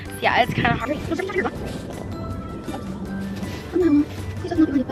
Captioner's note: fast chattering